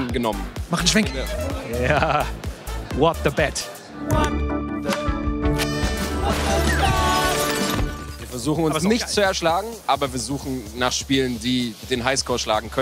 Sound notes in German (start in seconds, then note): 5.6 Scherbenklirren